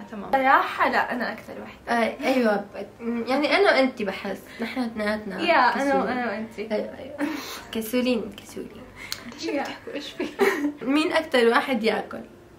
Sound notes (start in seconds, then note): 7.3 laughs